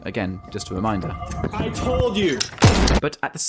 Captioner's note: gunshot